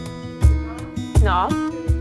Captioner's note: indistinct chatter in distance